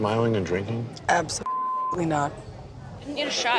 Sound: beep

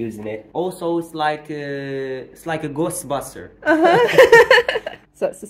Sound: laughing

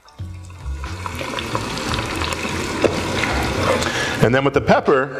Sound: sizzling

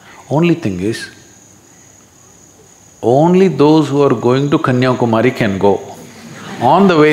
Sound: few laugh

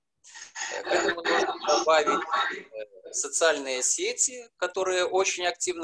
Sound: speaking foreign language

